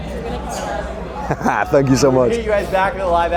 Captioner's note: cackles